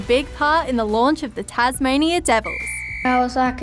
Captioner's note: whistle blows